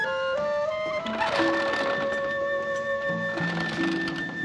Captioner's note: shutter rattling